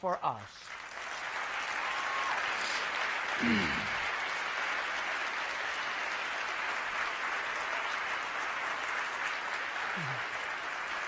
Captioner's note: applause